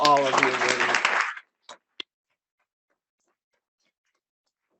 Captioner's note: audience applauding